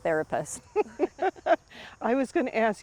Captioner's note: both laughing